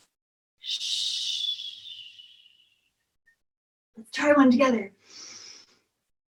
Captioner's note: deep breathing and shushing